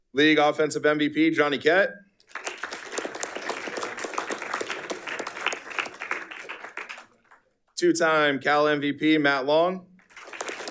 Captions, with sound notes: League Offensive MVP, Johnny Ket. (audience applauding) Two Time Cal MVP, Matt Long.